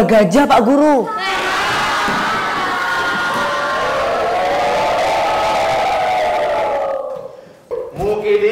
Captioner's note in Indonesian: tertawa mengejek